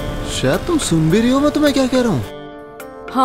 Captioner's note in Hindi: none